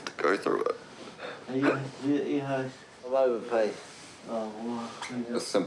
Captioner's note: sobs softly